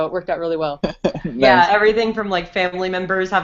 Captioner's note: laughs